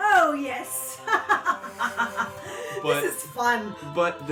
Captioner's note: laughs triumphantly